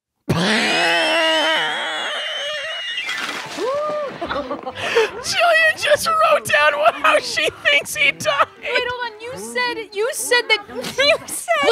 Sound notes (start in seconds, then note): 0.5 wheezing and laughing violently; 3.8 laughing